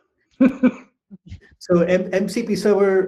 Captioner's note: chuckling